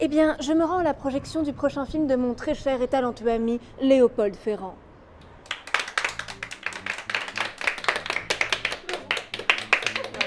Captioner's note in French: Applaudissements